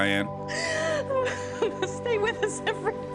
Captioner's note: reporter laughing